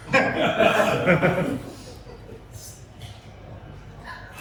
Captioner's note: laughter